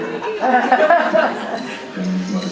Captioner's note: audience laughing